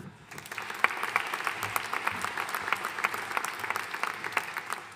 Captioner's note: audience applauding